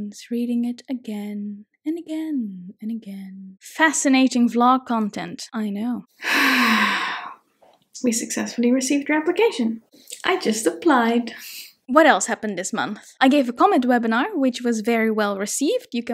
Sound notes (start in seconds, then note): 6.2 sighs